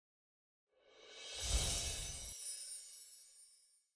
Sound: slide chiming

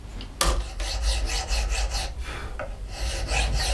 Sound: he blows

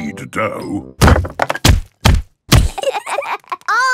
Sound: banging

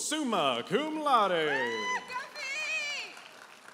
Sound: audience applauding and cheering

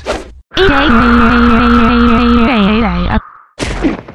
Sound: screaming; thud!

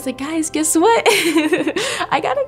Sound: laughs

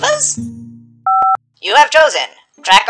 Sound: phone Tone

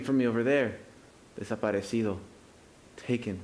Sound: speaking Spanish

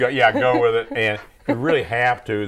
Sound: laughing

